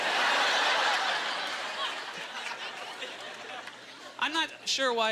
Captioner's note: audience laughter